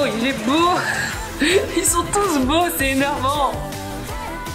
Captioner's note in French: rire